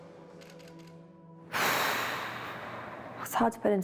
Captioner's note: exhales sharply